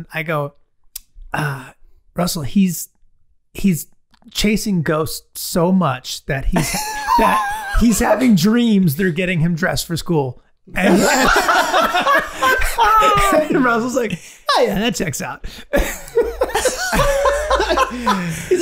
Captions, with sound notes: and I go "Russell he's chasing ghost so much," "that he's having dreams" (Glenn laughing) "they're getting him dressed for school." (all laughing) And Russell's like "Ah yeah that checks out." (all laughing)